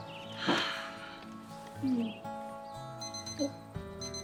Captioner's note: sighs; watch beeping